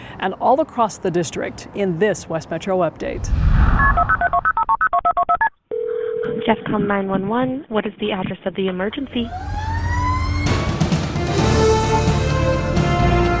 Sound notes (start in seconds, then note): 3.7 phone dialing; 9.1 dramatic music; 9.1 sirens blaring